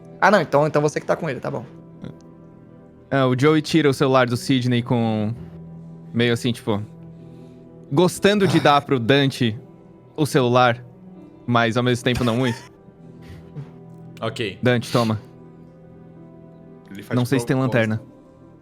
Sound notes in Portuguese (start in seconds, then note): 12.2 risos